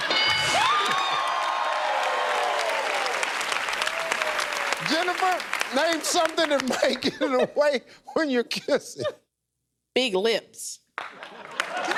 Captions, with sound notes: [ Cheers and applause ] Jennifer, name something that might [laughing] get in the way when you're kissing. Big lips.